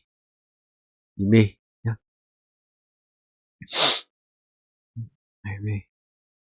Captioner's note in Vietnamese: khịt mũi